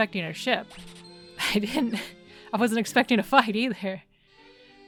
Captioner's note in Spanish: risas